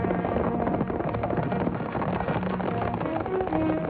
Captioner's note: horses galloping